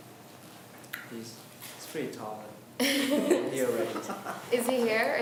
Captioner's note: laughs